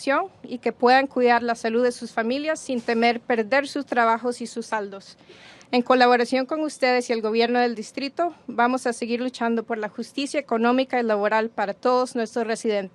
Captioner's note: speaking spanish